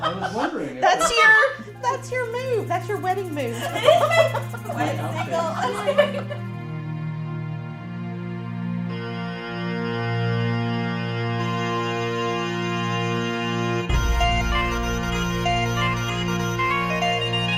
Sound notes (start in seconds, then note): 5.3 laughs